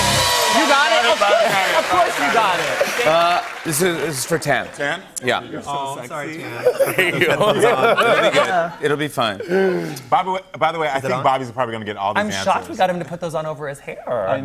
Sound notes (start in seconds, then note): 6.4 laughter